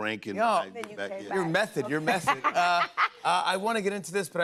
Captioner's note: laughs